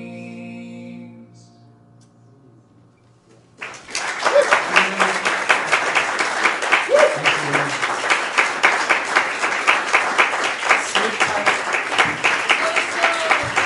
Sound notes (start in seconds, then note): 3.3 applause